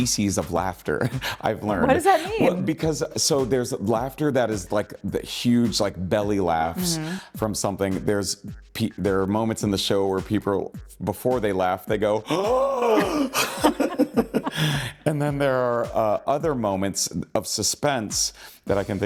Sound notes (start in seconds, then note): 13.8 laughing; 14.4 gasping deeply